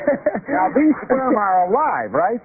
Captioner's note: laughter